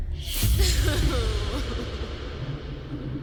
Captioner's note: echoing cry